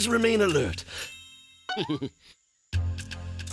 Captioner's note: chuckles